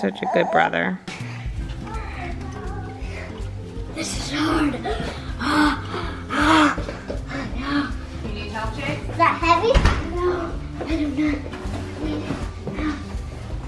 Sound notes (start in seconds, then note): 2.8 soft music; 4.2 breaths heavily